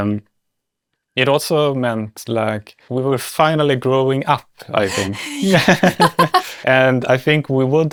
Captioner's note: laughs